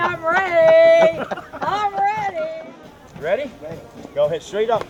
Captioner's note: laughing